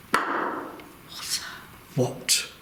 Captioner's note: objects clattering; walls banging